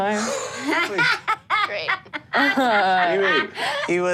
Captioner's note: all laugh